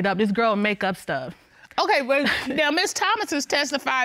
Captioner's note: chuckles